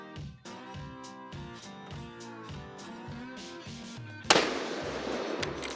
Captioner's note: gun fires